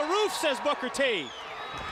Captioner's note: crowd cheering